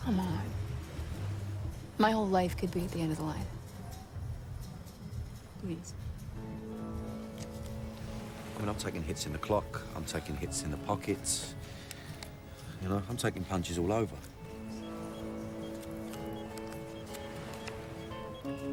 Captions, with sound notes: COME ON. MY WHOLE LIFE COULD BE AT THE END OF THE LINE. PLEASE. I MEAN, I'M TAKING HITS ON THE CLOCK. I'M TAKING HITS IN THE POCKET. YOU KNOW, I'M TAKING PUNCHES ALL OVER. ( dialing )